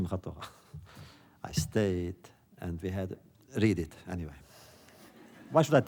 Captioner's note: laughter